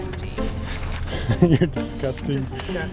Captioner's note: laughs